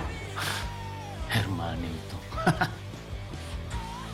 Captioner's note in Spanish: Ríe